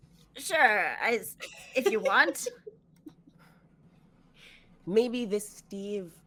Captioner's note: laughing